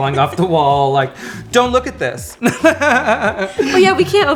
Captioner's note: laughing